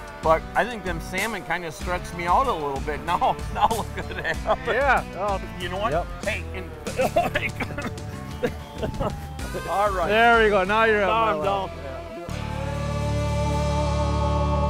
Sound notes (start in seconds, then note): 8.9 laughs